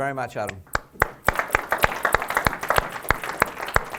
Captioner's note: applause